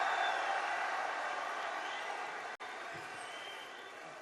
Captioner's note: applause